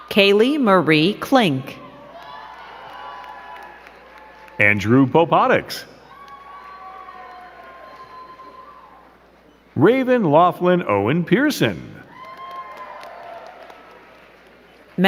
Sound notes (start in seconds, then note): 2.6 crowd cheering and clapping; 7.0 crowd cheering and clapping; 12.0 crowd cheering and clapping